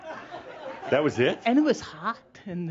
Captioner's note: more chuckles